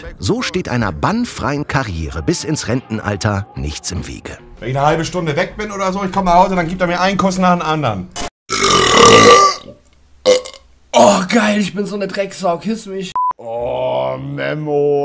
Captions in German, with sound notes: So steht einer bannfreien Karriere bis ins Rentenalter nichts im Wege. Wenn ich 'ne halbe Stunde weg bin, krieg ich nachher viele Küsse. (Lautes Rülpsen) Geil, ich bin so 'ne Dreckssau. Küss mich. Oh, Memo!